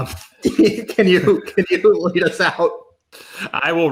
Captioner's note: laughs